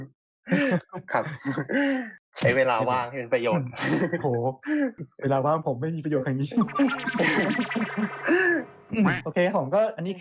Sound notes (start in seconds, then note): 6.6 laughs